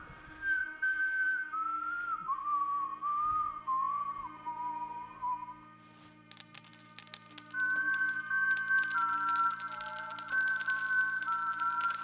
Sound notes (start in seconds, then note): 0.1 eerie whistling; 6.0 cereal clattering